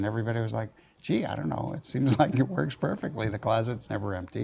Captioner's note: laugh